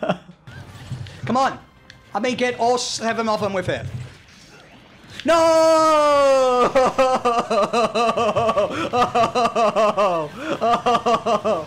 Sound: laughs and cries in disbelief

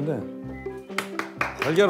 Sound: clap

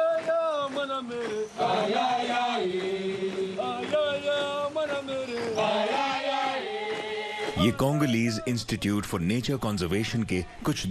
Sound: applause

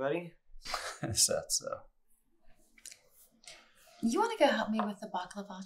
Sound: Arthur chuckles

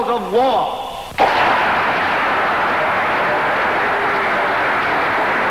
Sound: audience clapping

